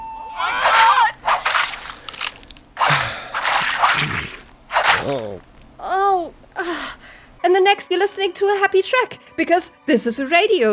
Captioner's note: sounds of someone being brutally murdered